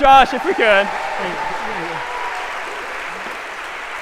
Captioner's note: applause